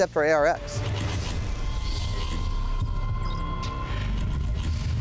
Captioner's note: digital sounds